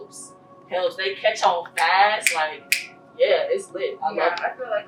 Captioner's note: snaps fingers